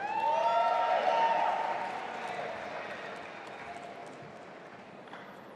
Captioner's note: audience applauding and cheering